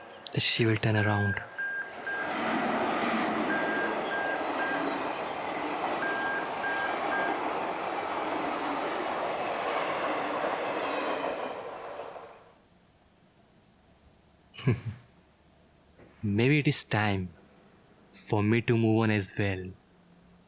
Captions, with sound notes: that she will turn around. [Train passes by] [Giggling] Maybe it is time for me to move on as well.